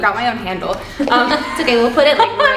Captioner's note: laughing